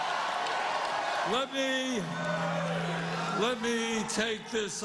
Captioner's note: cheers and applause